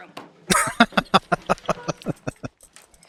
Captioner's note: laughing